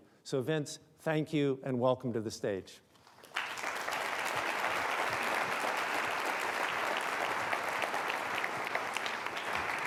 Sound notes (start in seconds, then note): 3.1 audience applauding